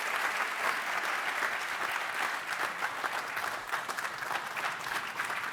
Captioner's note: applause